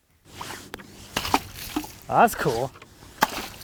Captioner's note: splashing